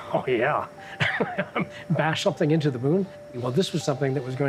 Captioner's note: laughing